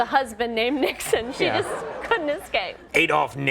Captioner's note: audience laughing